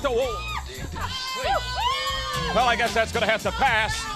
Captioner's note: crowd chatter